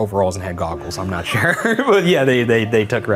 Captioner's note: laughs